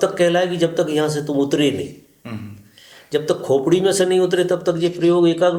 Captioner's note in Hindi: गला साफ़ करने की आवाज़